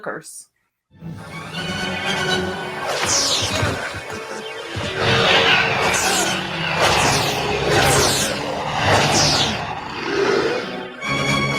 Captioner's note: dathon getting beat while transporter flickers